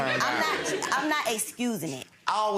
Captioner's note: audience laughs